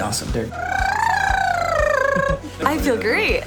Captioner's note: girl doing warm-up lip trills